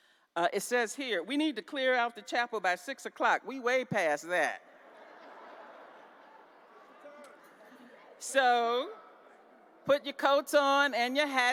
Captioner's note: laughter